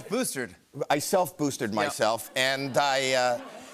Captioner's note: laughter